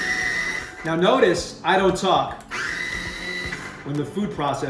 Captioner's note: food processor runs; food processor runs